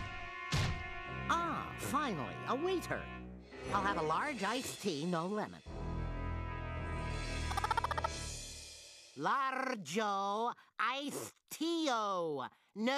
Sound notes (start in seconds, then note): 7.4 clucking